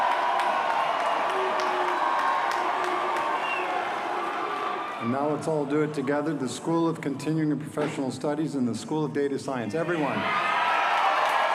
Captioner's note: cheers and applause